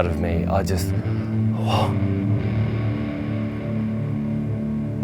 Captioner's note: sighing